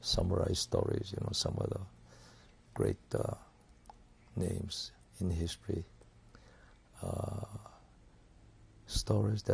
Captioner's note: pauses for 3 seconds